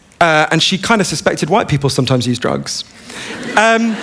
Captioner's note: laughter